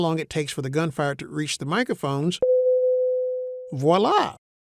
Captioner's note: ShotSpotter pinging